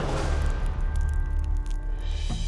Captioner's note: flames crackling